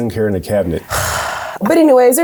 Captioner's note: sighs loudly